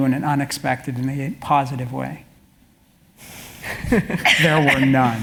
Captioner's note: laugh